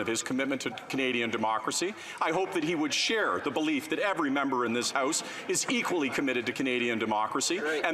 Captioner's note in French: voix de l'interprète